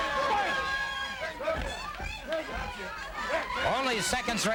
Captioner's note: crowd yelling